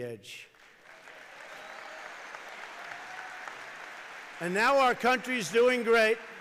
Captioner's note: applause